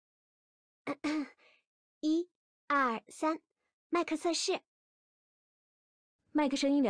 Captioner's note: throat-clear